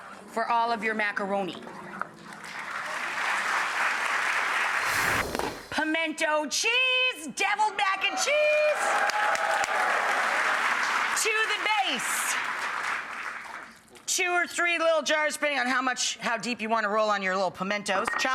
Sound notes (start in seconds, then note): 2.3 audience clapping; 4.7 air whooshing; 7.9 audience cheering